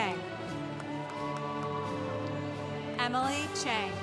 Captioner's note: congregation cheering